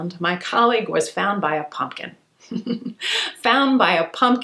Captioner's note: giggles